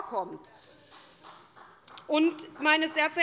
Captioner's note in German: Beifall des Abg